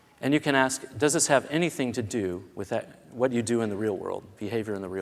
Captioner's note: none